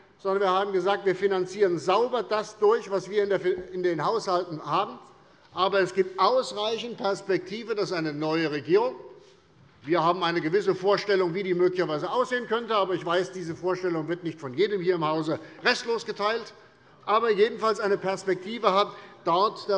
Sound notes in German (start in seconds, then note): none